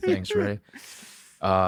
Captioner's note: laughs